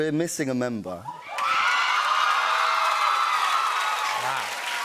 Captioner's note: cheers and applause